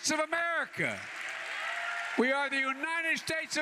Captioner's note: applause